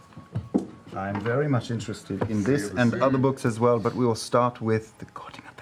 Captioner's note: whispers